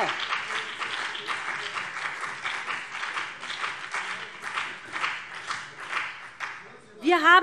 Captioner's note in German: Beifall BÜNDNIS 90/DIE GRÜNEN und CDU